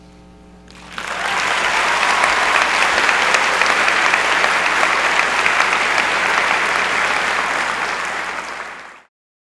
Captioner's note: applause